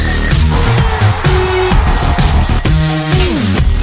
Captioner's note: cheers